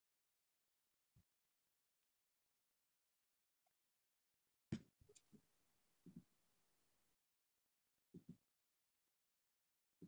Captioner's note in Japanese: 沈黙